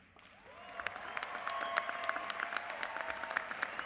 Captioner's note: applause